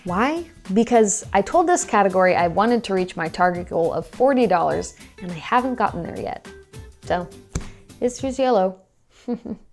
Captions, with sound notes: Why? Because I told this category I wanted to reach my target goal of $40, and they haven't gotten there yet. So is fuse yellow (chuckles).